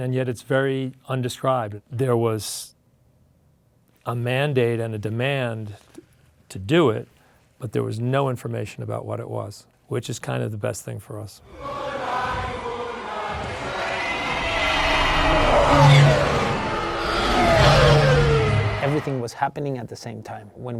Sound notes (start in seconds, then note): 11.7 people singing in a foreign language; 14.1 TIE fighters whizzing